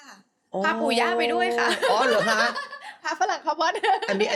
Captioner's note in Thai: เสียงหัวเราะ